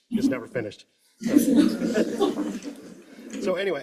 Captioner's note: laughter